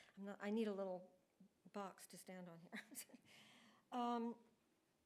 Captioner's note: laughs